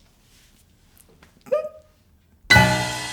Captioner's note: giggles